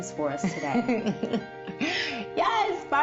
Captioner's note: laughs